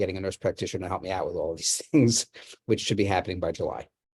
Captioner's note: laughs